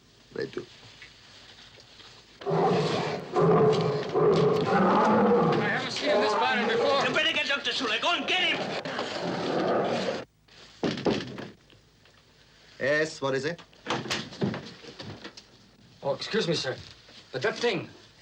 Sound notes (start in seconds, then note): 2.4 gorilla roaring; 10.9 knocking on door